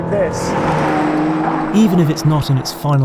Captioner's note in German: Valhalla-Rauschgeräusche